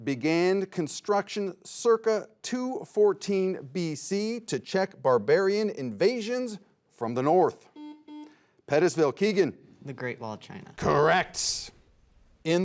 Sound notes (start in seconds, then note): 7.7 buzzer beeps